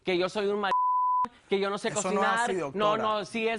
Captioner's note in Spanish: Bip